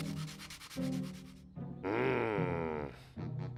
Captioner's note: growls